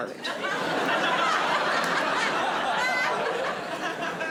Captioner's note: audience laughing